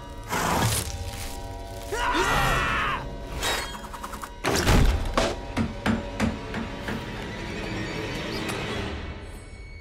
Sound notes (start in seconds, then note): 1.9 screaming